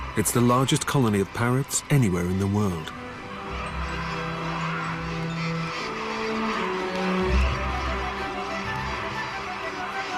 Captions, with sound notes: It's the largest colony of parrots anywhere in the world. (parrot calls) (ebullient music)